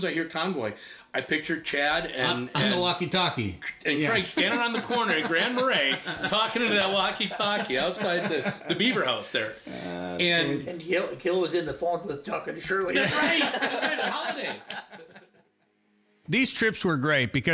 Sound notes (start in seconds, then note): 7.4 chuckles; 12.9 everybody laughing